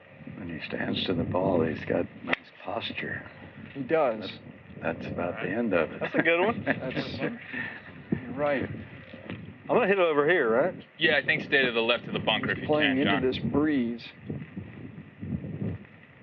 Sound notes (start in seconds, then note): 5.6 chuckles